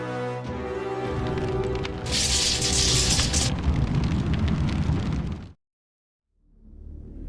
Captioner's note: flames whooshing; electricity crackles; tense ambient music